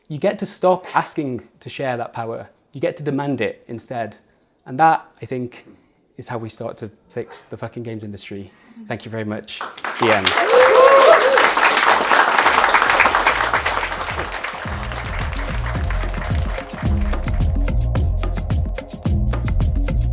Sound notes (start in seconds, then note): 9.6 audience cheering; 16.8 gentle upbeat music